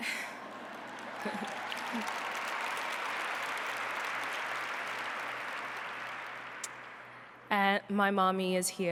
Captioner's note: applause; laughter